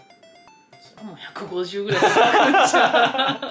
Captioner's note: laughter